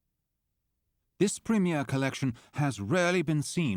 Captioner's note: voiceover